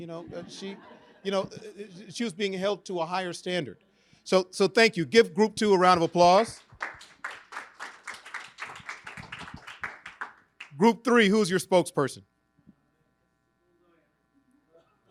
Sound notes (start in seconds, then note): 6.3 audience applauding